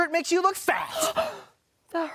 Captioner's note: gasps